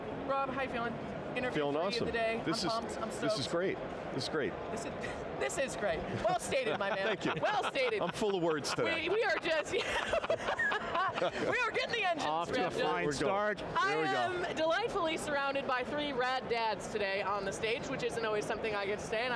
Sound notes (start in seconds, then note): 6.1 laughing; 11.1 laughs